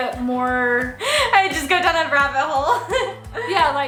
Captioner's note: laughs